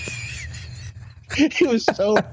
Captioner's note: laughing